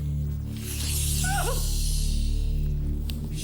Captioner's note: whimpering